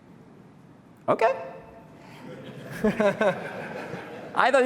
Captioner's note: laughter